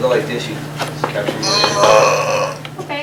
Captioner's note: stretching sound